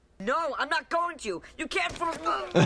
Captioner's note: Malcolm groans